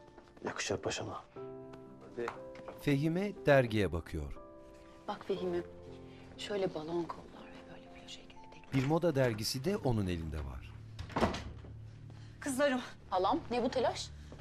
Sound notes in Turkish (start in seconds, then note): 9.0 Kapı açılma sesi; 10.9 Kapı kapanma sesi